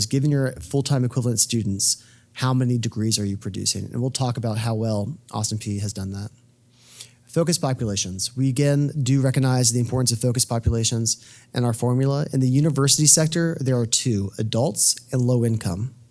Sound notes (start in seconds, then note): none